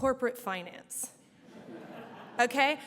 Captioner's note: audience laughs